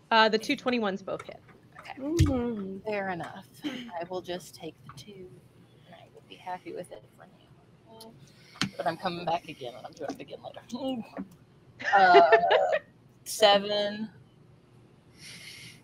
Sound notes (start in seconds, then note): 11.8 laughter